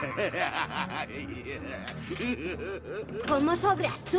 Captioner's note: maniacal laugher